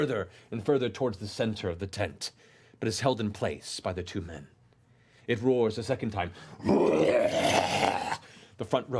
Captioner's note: roars